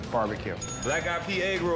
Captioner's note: bell rings